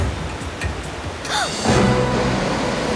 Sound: gasps

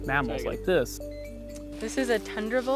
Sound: electronic beep

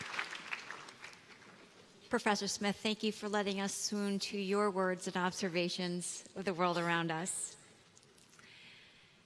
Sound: applause

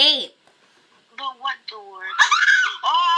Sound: screams

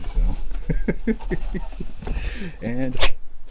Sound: laughs; whooshing, thud

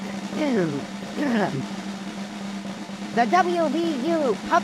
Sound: drum roll; clears throat

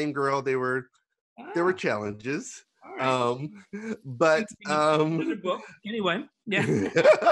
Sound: laughs

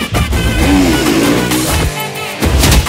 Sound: bike engines revving

